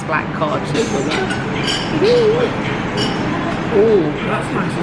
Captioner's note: diners chattering in the background